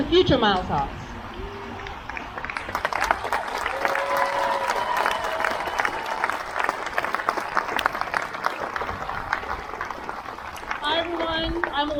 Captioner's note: crowd cheers